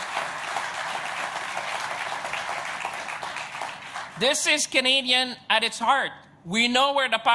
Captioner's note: applause